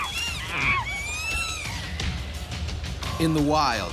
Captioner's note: chimps squealing; voiceover